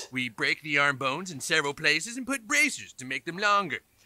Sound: none

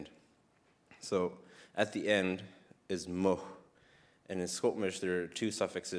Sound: speaks in First Nations language

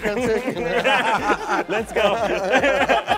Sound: laughing

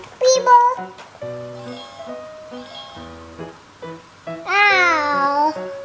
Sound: toy phone rings

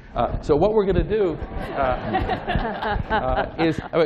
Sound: laughter

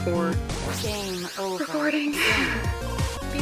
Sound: sigh

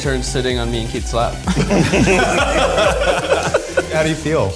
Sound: group laughing

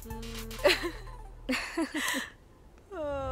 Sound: laughs

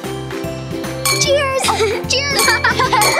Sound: upbeat playful music; laughing and clinking; cups clinking

